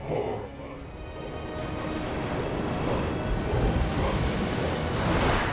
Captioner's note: chanting